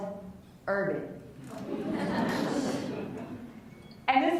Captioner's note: laughs